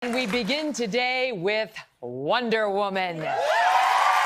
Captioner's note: applause; applause